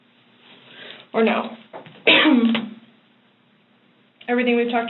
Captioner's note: coughs